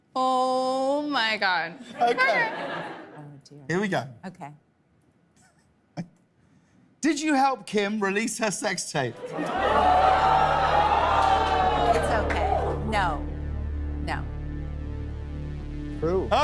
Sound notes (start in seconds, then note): 1.9 laughing; 9.1 crowd cheering